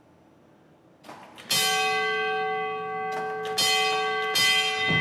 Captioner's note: bell rings